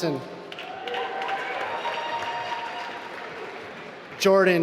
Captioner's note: applause